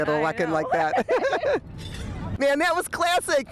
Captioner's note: laughs